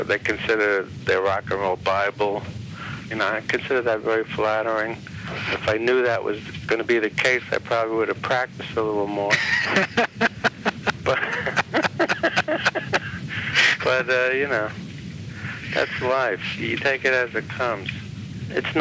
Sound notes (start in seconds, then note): 9.2 laughs